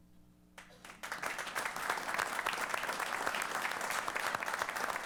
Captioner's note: applause